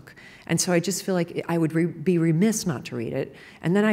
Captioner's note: none